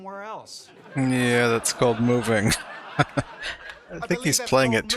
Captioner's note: chuckling